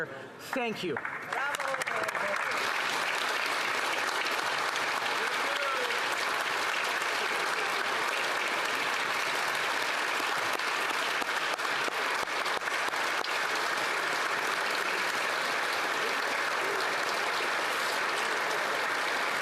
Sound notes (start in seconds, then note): 6.9 applause